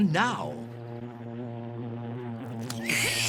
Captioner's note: buzzing; slurps